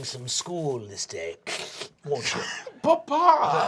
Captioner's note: snorts